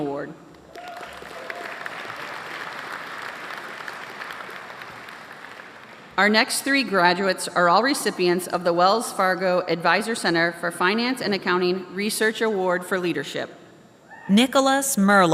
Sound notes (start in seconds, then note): 7.2 applause